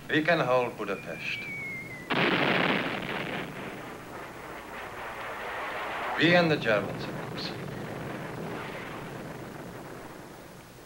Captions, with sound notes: WE CAN HOLD BUDAPEST. [EXPLOSION] WE AND THE GERMANS, OF COURSE.